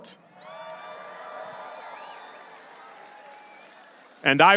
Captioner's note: audience cheering and applauding